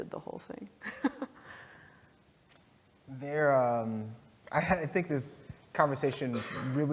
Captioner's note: laughs